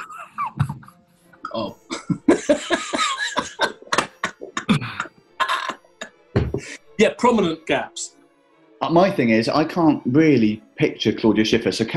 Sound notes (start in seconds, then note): 1.3 sniggering; 1.4 laughing